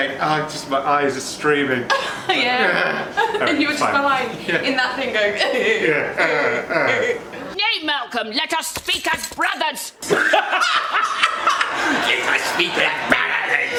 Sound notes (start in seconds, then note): 5.8 crying noises; 10.0 laughs